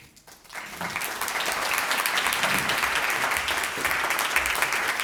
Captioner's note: audience applauds